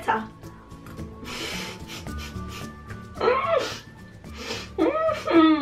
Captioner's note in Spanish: risas